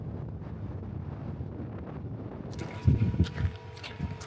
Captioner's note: wind blowing